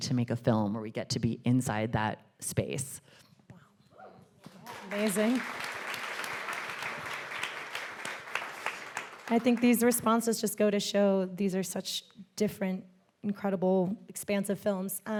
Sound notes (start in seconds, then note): 6.1 audience applauding